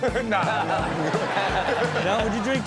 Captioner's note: audience laughs